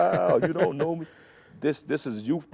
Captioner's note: laughs